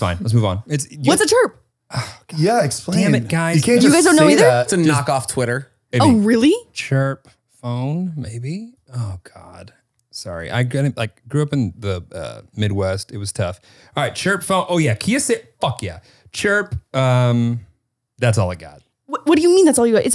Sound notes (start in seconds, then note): 1.9 sighs